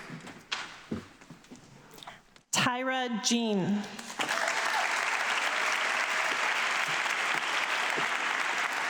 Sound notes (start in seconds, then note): 4.0 audience clapping